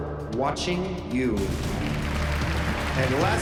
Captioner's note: applause